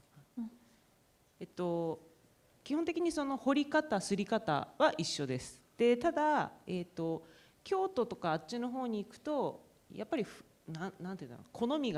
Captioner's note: speaking japanese